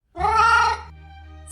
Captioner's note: meow